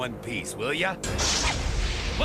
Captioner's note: crashing